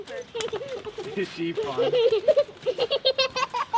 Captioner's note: giggling